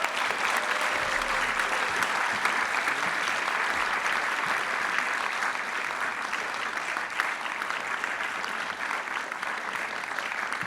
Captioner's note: applause